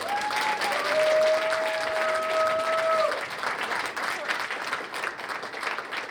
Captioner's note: cheers and applause